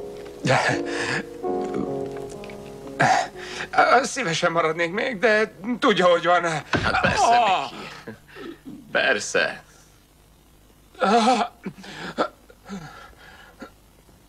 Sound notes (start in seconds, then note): 8.2 gasping; 11.1 moaning and panting